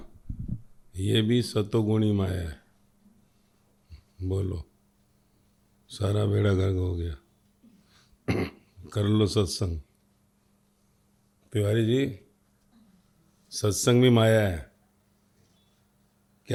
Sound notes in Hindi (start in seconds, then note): 8.2 गला साफ़ करने की आवाज़